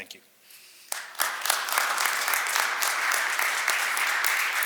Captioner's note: audience applauds